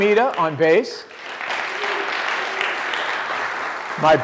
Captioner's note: applause